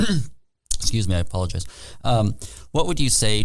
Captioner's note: clearing throat